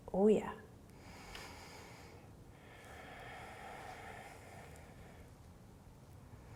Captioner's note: breathing